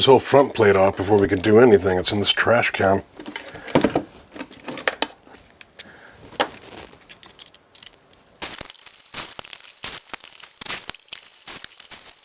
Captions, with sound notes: whole front plate off before we can do anything. It's in this trash can. [Squeaking sound]